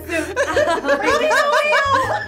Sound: laughs

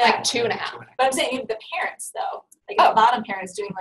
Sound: voiceover

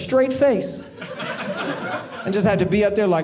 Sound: audience laughing

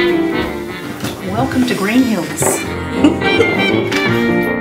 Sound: laughter

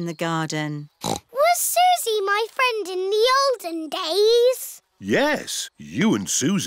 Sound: snorts

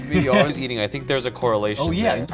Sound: laughing

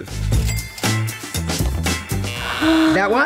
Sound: cash register dings; buzzer beeps; Dorinda gasps

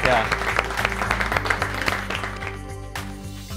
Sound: students applaud

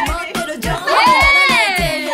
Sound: hehe

